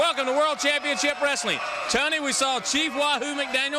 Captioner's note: crowd cheering